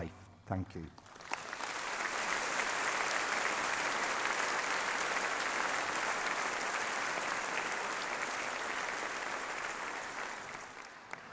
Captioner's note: applause